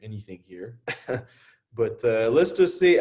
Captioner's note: chuckles